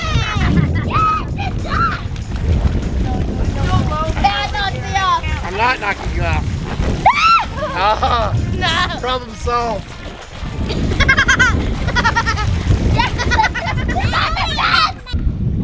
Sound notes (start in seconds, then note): 7.0 screams; 10.6 laughs; 13.3 shouting